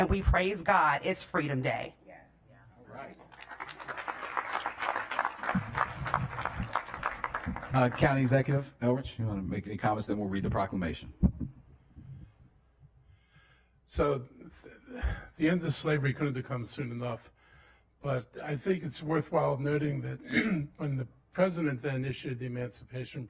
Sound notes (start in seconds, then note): 8.0 applause